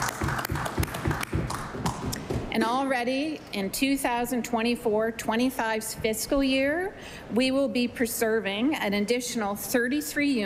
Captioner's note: applause